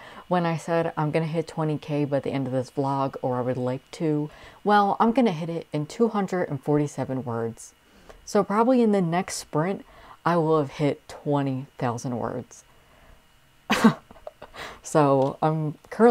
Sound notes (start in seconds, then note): 13.7 laugh